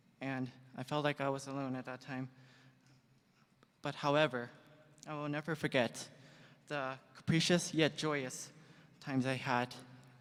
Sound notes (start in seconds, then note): none